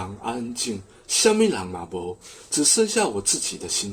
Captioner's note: in Hokkien